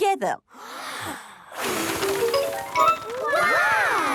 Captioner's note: big breath and blow